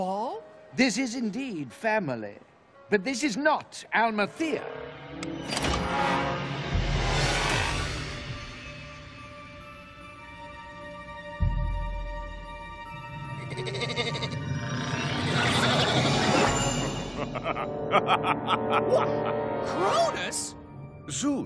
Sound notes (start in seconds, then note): 13.4 bleating; 17.1 laughing